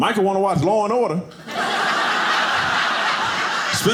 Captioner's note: audience laughing